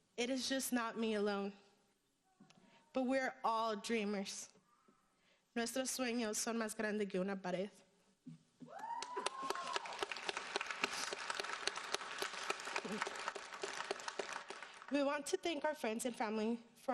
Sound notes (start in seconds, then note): 5.5 speaking in foreign language; 8.7 audience cheering and applauding